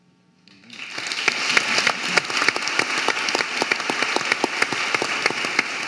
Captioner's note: audience applauding